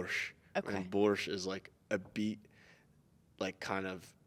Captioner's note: speaking in Russian